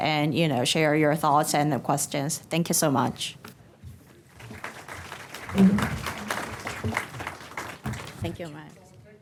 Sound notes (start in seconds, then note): 4.2 applause